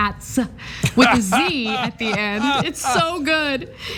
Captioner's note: laugh